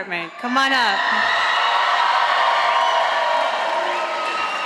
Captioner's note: audience applauding